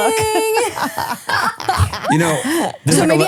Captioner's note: both laughing